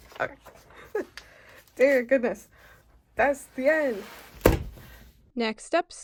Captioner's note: slam